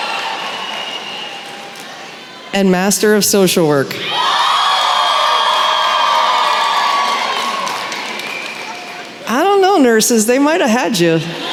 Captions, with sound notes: And Master of Social Work. [cheering] I don’t know, nurses, they might have had you.